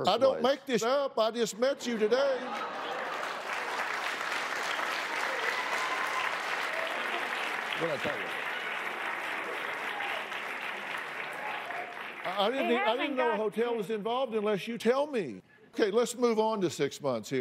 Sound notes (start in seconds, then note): 5.7 applause, scattered cheers